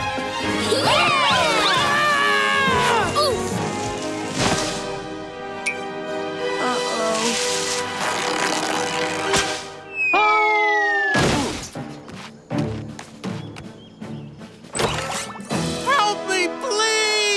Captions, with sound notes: [cheering] Uh oh. [screaming] Help me please!